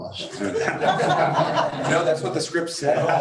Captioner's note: crowd laughs